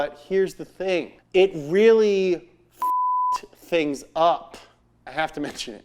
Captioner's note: beep